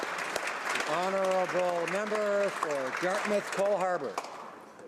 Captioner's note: applause